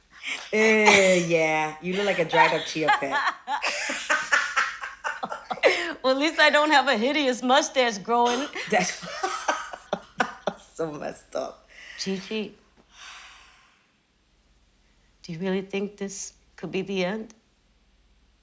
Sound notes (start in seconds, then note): 3.6 laughing; 8.1 laughing; 8.6 gasps